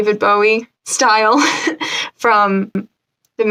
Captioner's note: laughs